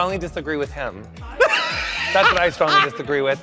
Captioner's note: Bobby laughs